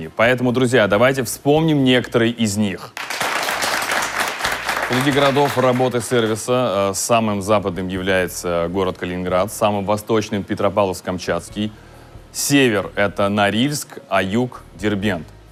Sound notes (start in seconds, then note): 2.9 applause